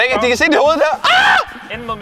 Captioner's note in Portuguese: Gritos